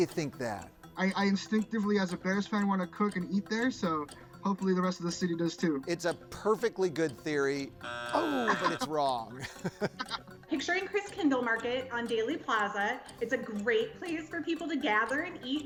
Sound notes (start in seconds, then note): 7.8 buzzer drones; 8.1 laughing